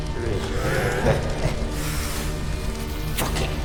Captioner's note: chuckles